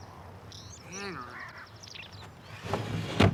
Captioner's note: groans